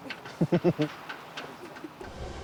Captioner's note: chuckles